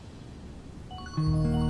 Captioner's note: Alarm